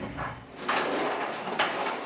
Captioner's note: cart clatters